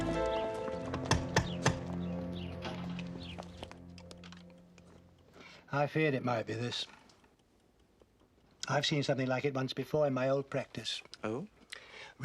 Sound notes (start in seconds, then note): 0.9 knocks